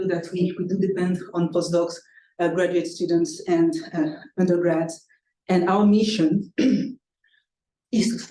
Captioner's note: clearing throat